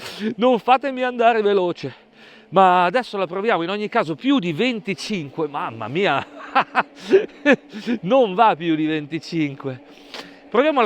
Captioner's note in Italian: risate